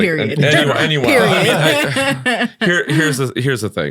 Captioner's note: all laughing